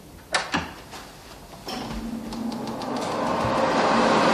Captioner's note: hand drier roaring